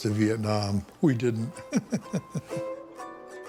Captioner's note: laughs; acoustic music